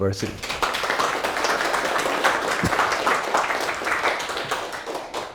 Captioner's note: audience applauds